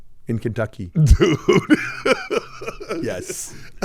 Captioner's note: laughing